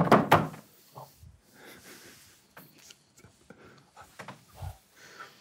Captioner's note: hands smacks table; group quietly laughing